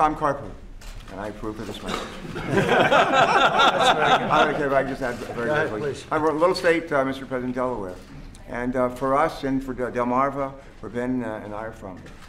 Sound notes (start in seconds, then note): 2.2 laughter